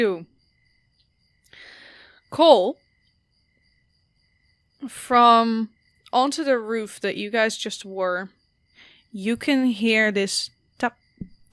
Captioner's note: tap, tap, tap tap